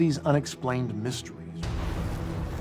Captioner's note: explosion